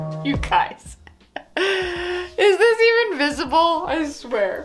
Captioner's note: laughs